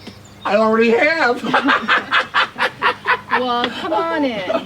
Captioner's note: laughs